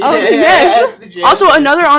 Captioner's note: laughing